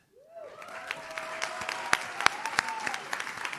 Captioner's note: audience claps